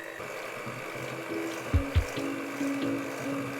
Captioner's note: whirring